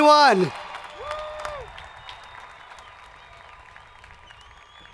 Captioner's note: crowd applauding